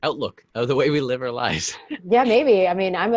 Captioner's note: laughs